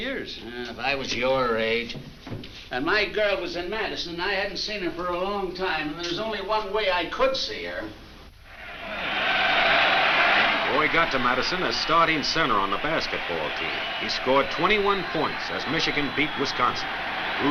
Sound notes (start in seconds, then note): 8.9 crowd cheers